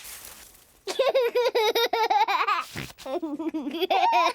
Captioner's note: laughs; giggles